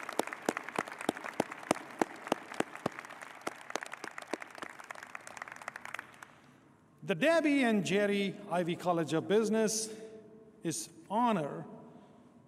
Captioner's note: applause